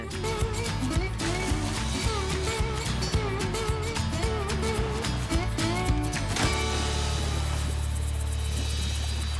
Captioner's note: falls, splashes multiple times